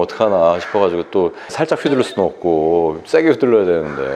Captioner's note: nervous